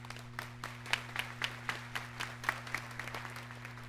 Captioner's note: audience clapping